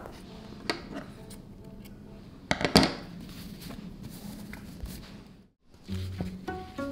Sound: fabric rustling; scissors clattering; classical music; fabric rustling

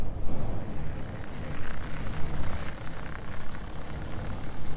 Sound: snow crunching

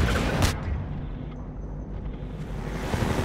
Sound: bomb exploding; engine revving stops; hoverbike engine revving

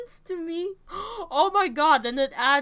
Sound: gasp

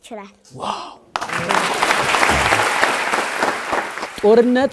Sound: applause

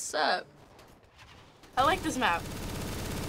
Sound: firing

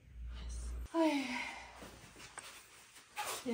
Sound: sigh

